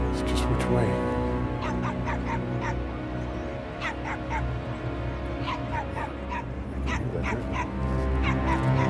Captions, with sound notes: It's just between... [tense music] [dogs barking]